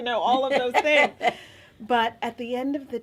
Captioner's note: laughing